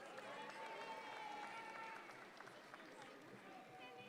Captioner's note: audience claps